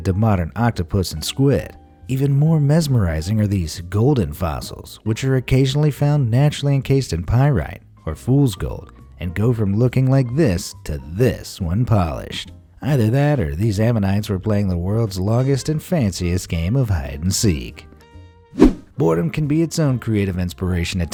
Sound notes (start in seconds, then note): 18.5 whoosh